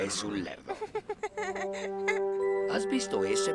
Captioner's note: laughs